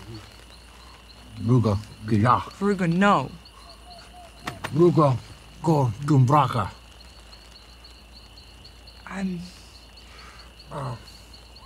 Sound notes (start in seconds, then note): 1.0 V'rugga speaks gibberish; 4.4 V'rugga speaks gibberish